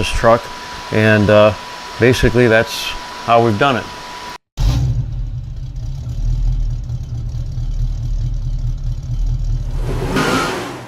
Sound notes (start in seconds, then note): 4.3 engine Revving; 9.6 tires Squealing